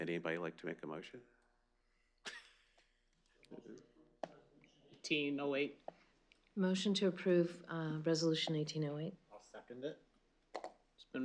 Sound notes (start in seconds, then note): 2.1 laughs